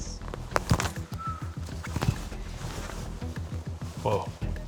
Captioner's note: laughing; whistling